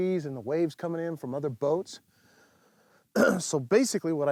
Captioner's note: clears throat